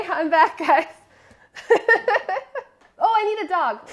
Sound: laughs

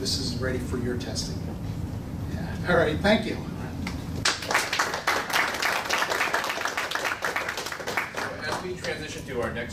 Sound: applause

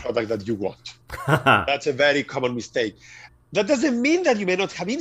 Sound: laugh

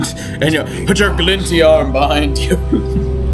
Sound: chuckle

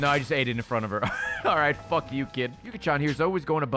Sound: laughs

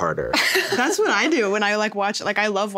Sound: laughs

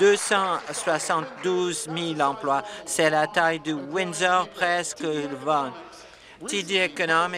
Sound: applause

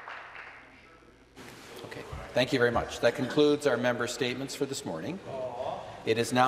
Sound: applause

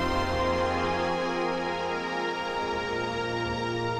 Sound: wind and water fade out

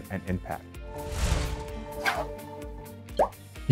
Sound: graphic whooshing

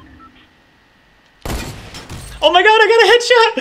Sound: gunshot

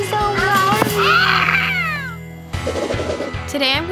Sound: child screaming

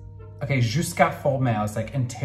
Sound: speaking in foreign language

